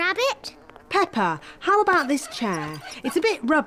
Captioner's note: flies buzzing